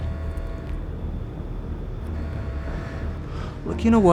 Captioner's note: alarm blaring